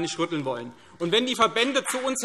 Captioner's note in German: Beifall CDU und BÜNDNIS 90/DIE GRÜNEN